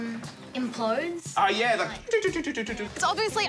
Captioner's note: mimics game sound effects